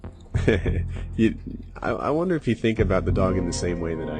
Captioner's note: chuckles